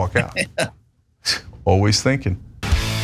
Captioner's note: laugh